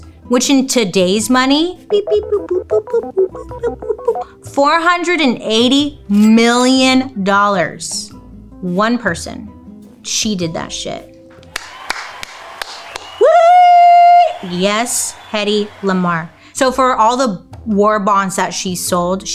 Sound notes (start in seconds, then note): 2.0 imitating digital bleeping; 11.4 people cheering applauding